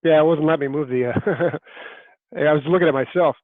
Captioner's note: laughing